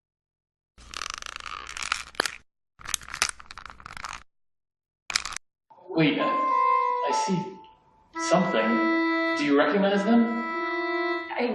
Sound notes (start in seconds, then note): 1.0 crackling pops